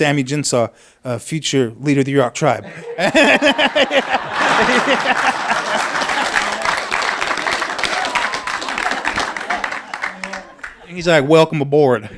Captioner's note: laughter; applause